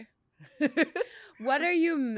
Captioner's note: laughs